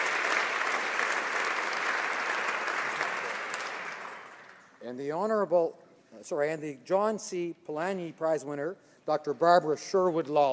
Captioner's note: applause